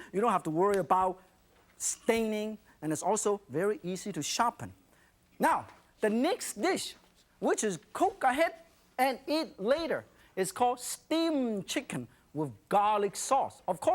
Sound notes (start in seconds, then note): none